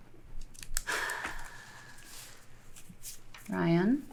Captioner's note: Ryan sighing